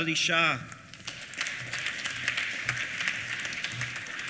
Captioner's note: applause